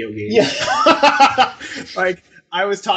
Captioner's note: and interviewers laugh